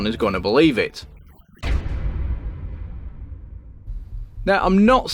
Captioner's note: sound FX